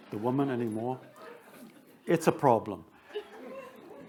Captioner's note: attendees chuckling